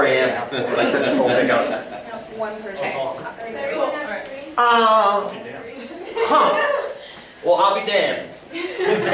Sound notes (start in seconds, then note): 2.3 laughter; 6.0 laughter; 8.5 laughter